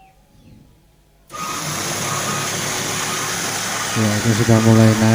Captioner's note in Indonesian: suara mesin